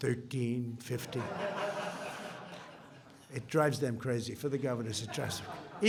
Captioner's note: laughter